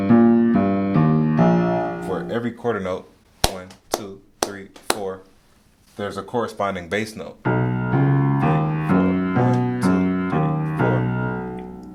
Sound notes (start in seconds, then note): 0.0 piano: plays walking bass line; 3.4 claps; 7.4 piano: plays walking bass line